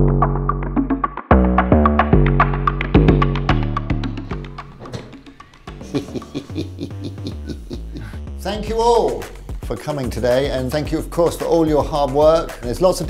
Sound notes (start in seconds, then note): 5.7 ominous but excited giggles